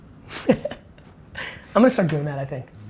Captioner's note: laughs